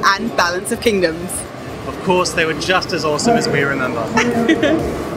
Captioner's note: laughs